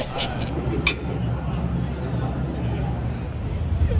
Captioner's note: laughs; clink!